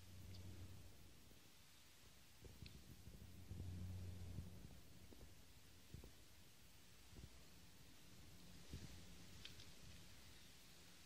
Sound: aeroplane cruising

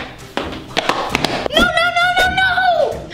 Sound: loud footsteps

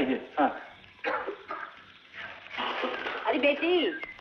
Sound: coughing

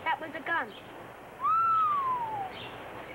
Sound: whistles

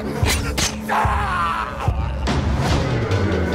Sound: man yells; creepy intense music

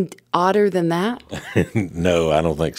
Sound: chuckles

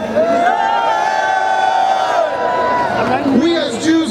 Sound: cheering

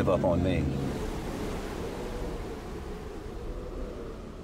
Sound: waves crashing; wind howling

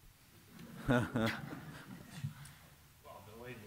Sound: laughter

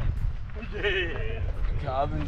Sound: laughs

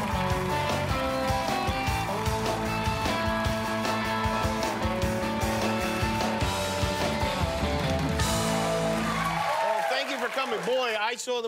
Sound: cheers and applause

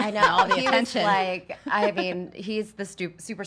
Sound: laughs

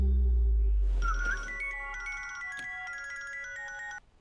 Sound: phone ringing

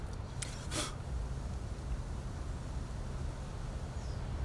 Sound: exhaling; birds chirping

